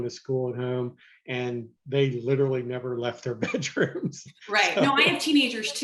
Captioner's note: laughs